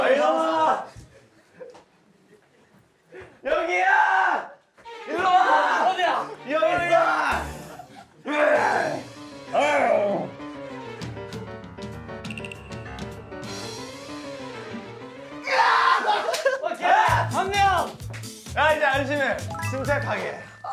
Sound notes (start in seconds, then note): 15.4 screams